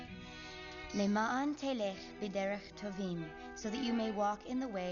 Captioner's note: speaking Hebrew